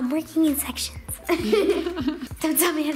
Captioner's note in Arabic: الضحك